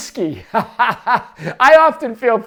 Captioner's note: laughs